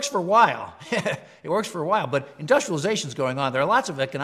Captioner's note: laugh